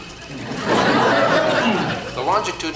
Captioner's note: audience laughs